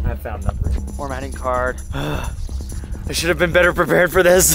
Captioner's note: huffs